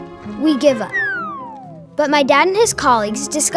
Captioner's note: descending sound